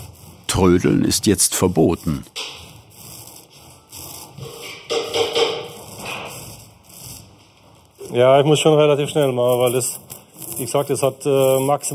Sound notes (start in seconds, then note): 4.3 hammering in the background